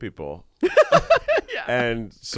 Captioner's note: laughs